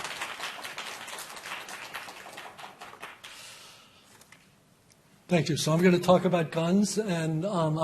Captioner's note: applause